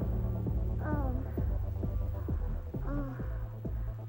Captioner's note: Iris moaning